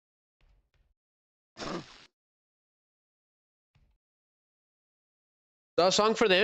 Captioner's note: snorts